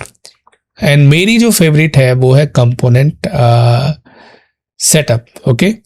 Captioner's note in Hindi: नाक से की जाने वाली आवाज़